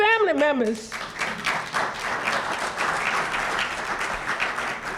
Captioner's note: applause